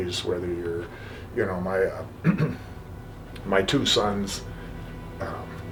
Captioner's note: clears throat